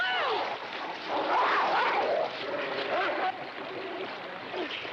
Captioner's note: dogs snarling